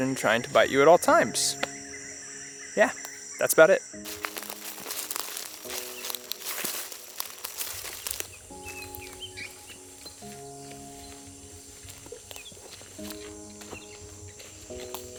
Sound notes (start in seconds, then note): 1.6 birds singing; 4.6 leaves rustling; 8.7 relaxing music